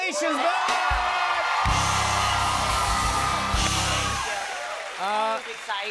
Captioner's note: cheers and applause